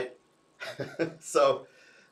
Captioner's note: chuckles